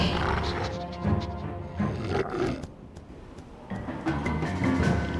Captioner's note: Raptor sniffs and growls; dramatic music